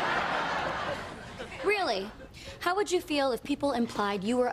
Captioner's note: laughter